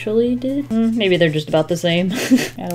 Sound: laughs

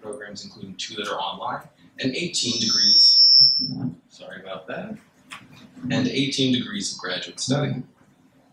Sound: mic Noise

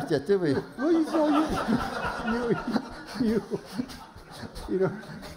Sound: laughter

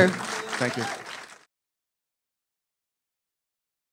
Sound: audience cheering

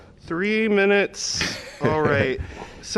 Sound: laughter

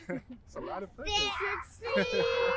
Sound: laughs

